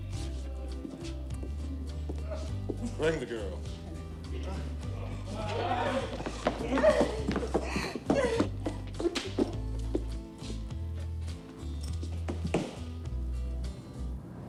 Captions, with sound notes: - Bring the girl. (Oggie crying)